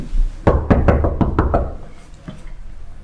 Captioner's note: knocking